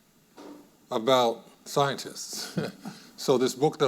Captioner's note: chuckles